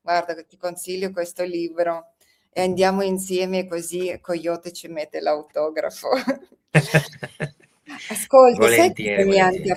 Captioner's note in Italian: risate